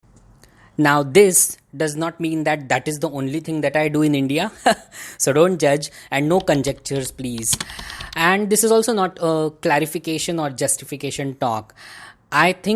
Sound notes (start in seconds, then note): 4.6 chuckles